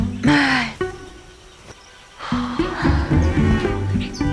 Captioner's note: birds; sighs